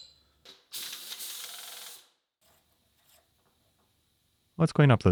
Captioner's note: machine whirring